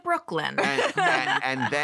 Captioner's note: laughter